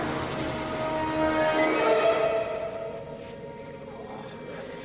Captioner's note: soft growling